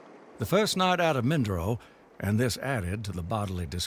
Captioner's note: water gushing